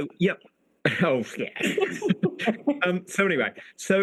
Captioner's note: both laugh